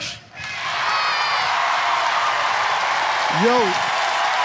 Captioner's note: audience applauds